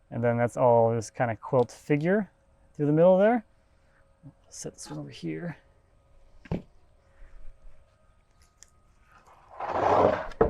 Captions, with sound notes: And then that's all this kind of quilt figure through the middle there. Set this one over here. (log thudding)